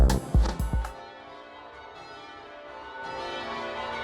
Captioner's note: upbeat music; bells chiming